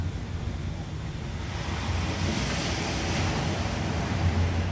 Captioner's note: ocean waves crashing